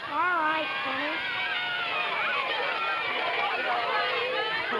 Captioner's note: children cheering